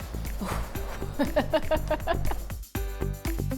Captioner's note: laughing; upbeat music